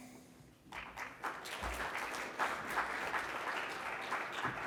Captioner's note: congregation clapping